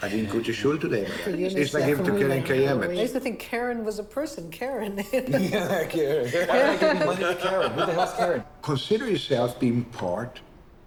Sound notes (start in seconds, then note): 6.5 laughs